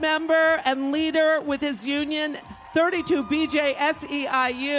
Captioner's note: applause